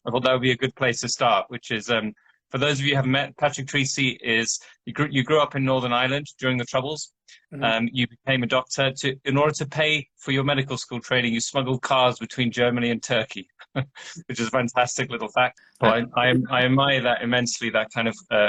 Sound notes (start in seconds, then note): 13.5 chuckles